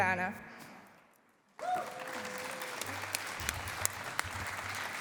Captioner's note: cheering and applause